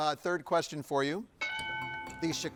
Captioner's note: bell dings